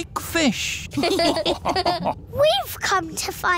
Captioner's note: all laughing